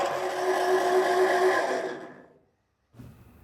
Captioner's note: whirping stops